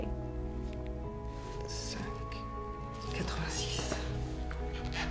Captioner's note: speaks in French; inquisitive music